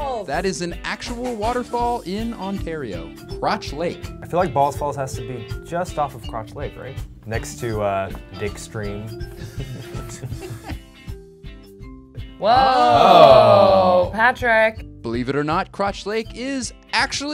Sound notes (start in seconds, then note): 9.3 laughter